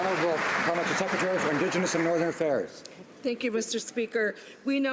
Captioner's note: some Applause